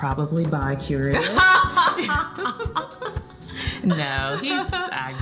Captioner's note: both laughing